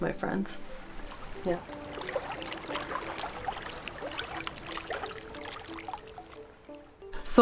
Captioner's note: ambient water sounds from the river